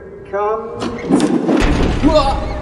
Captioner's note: mechanical door noise